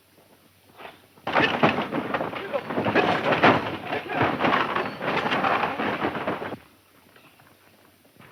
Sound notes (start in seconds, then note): 1.2 wagon clattering